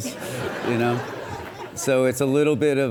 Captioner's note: audience laughs